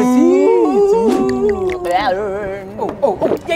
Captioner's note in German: Ekelgeräusch